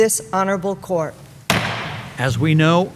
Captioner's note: hammer bangs